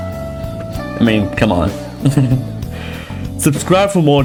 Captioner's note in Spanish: risas